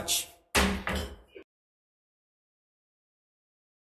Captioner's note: gavel thuds